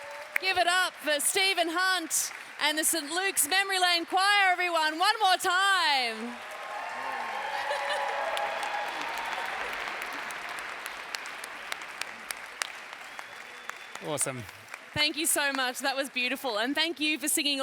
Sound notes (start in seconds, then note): 0.0 background chatter; 6.4 cheering